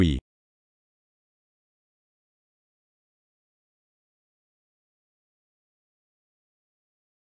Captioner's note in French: silence